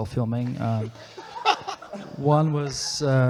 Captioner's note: people laughing